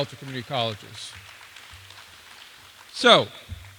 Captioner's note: applause